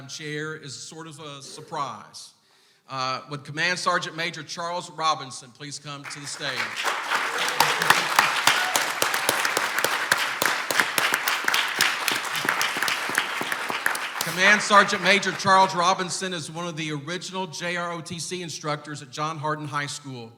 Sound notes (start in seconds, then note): 6.2 clapping